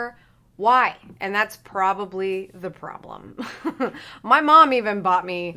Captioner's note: chuckles